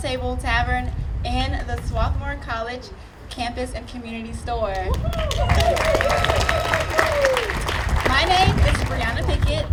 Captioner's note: audience appluading